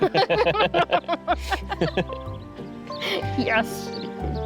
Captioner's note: couple laughing